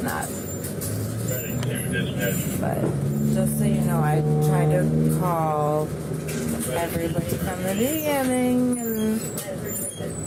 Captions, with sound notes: Probably not (Radio chatter) But just so you know, I tried to call everybody from the beginning and—